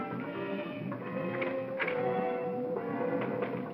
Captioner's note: door opens